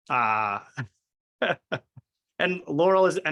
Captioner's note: laughs